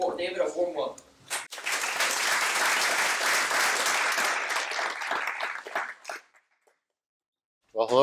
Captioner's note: applause